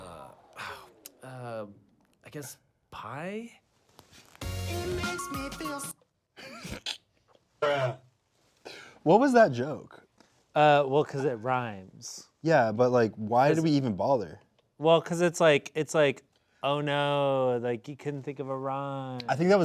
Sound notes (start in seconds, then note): 6.4 snickering; 7.9 distorted Voice